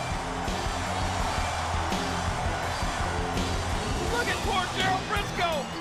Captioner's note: audience cheers